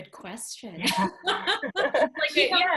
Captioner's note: laughing